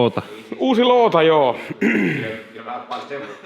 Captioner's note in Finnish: rykäisee